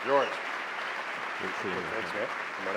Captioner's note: applause